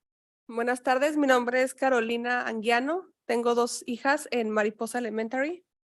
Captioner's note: speaking in Spanish